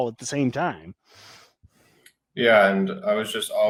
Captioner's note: sighs